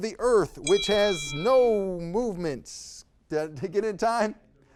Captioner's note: time bell dinging